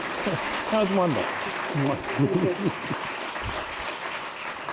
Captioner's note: applause